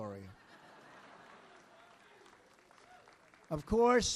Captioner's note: laughter